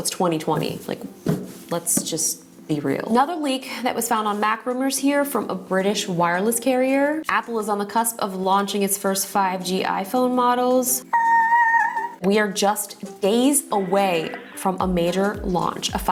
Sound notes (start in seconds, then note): 11.0 mimicks excitedness